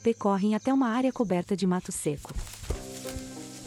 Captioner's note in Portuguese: Pássaros; Ruídos de solo seco